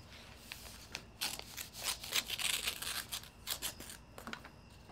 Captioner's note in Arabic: تمزيق المظروف